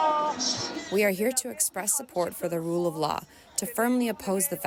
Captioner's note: through translator